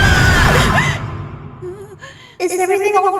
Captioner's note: gasps and whimpers